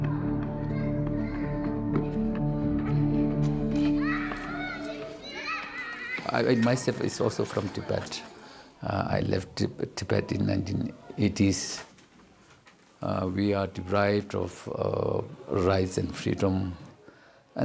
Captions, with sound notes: (children exclaiming) I myself is also from Tibet, I left Tibet in 1980s. We are deprived of rights and freedom,